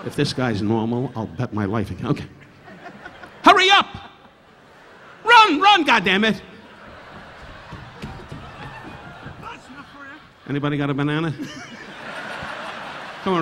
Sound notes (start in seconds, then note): 2.5 laughing; 6.6 audience laughing; 6.7 footsteps thudding on stage; 11.2 laughing; 11.6 audience laughing